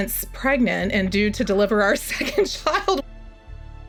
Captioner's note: laughs